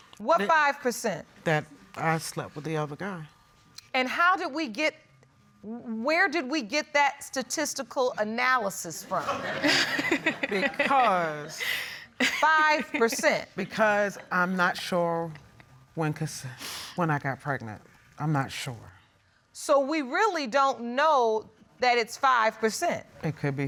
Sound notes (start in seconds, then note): 9.2 audience chuckles